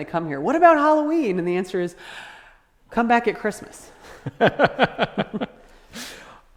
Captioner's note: laughter